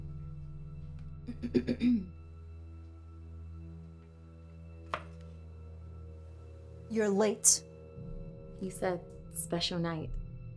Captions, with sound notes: (woman clearing throat) You're late. - You said special night.